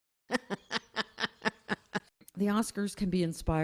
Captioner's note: woman laughing